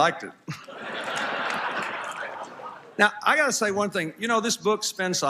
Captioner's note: laughter